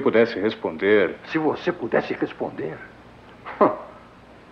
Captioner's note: scoffs